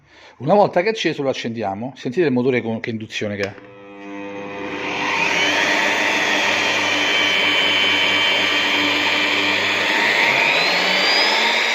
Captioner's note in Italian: Engine Sound